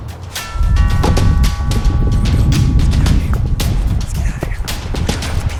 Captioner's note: doorbell dinging